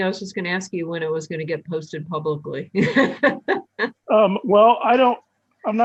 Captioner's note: laughs